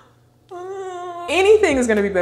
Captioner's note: whining